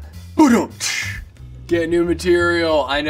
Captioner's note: imitates drum rim-shot